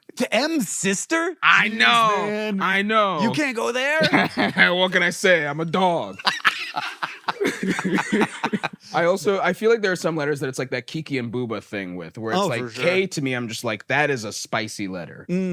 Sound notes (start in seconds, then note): 6.1 laugh; 6.1 laughs